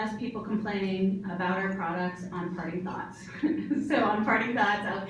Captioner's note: chuckles